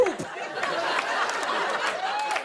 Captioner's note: laughter and applause